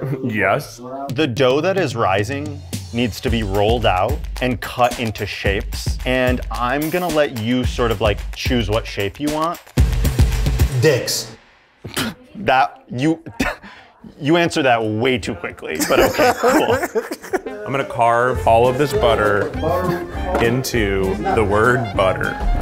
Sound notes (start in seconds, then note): 9.7 suspenseful music; 15.8 laughs